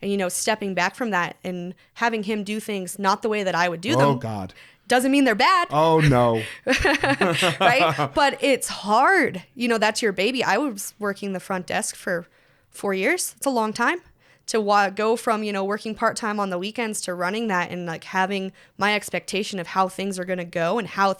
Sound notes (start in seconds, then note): 5.8 laughs